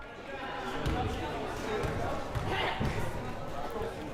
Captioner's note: crowd murmuring